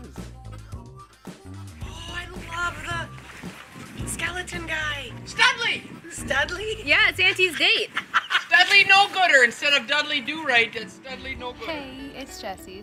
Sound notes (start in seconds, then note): 0.0 country music; 8.6 laughing